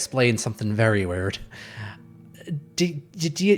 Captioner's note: exasperated sigh